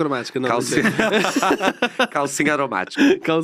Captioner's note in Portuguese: risos